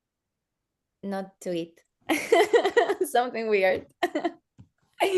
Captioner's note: laughs